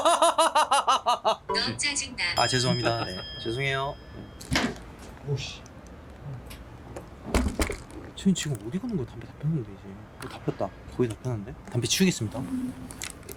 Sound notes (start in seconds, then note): 0.0 laughing out loud